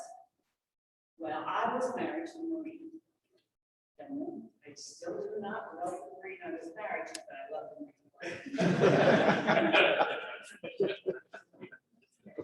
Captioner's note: laughter